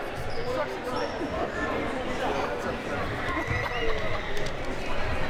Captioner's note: audience chattering